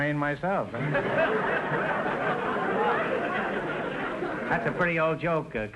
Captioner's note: audience laughter